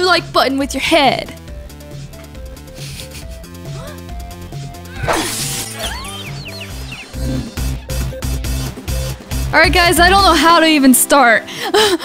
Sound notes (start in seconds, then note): 3.1 chuckling; 5.1 glass shattering